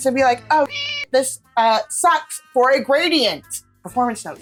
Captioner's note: meow